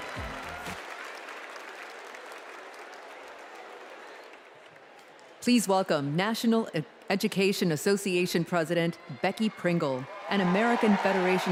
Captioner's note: cheers and applause